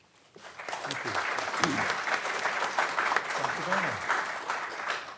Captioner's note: audience clapping